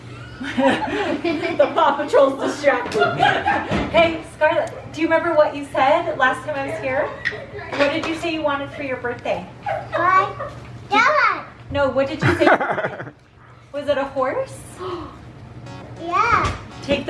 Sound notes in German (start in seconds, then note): 2.8 alle lachen